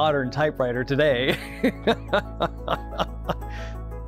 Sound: laughing

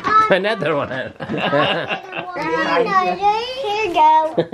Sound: laughs

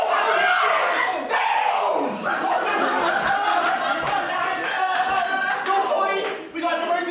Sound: Panicked New Yorker noises

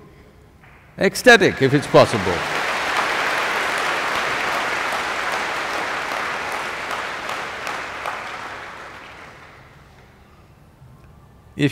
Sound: applause

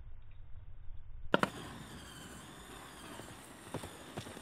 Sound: torches hissing

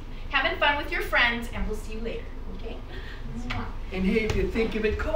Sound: kissing

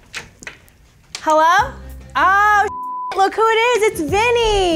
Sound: computer bleeps

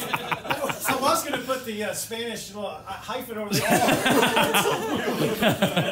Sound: laughter

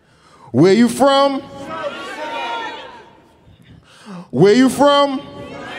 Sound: audience shouting; audience shouting

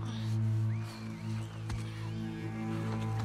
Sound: whistles!!!

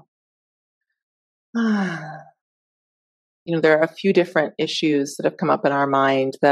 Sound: sighing

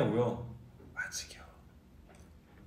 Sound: whispers

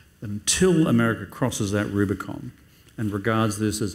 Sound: none

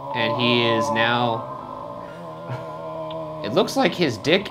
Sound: groaning uncomfortably

